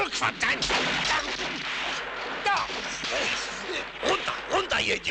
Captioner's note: bullets clattering